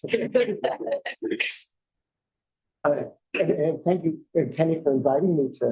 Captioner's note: laughter